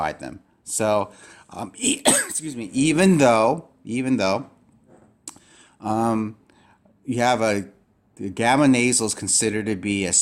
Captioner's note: sneeze